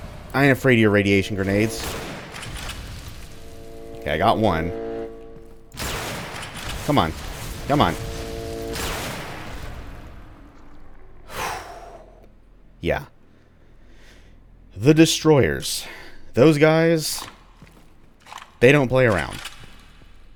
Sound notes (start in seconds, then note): 6.0 bam; 11.3 sighs in relief